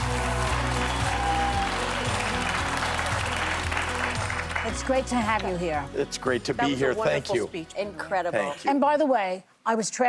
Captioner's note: applause